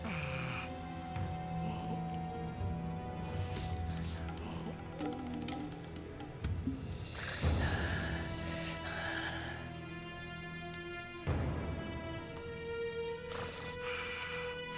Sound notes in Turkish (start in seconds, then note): 0.0 İnleme sesi; 6.9 Nefes sesi; 13.0 İnleme sesi